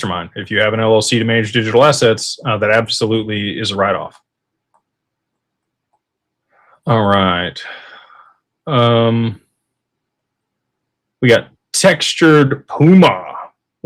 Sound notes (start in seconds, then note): 7.6 sighs